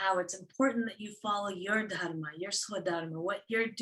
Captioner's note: non-english speech